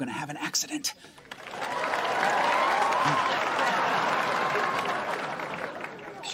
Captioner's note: applause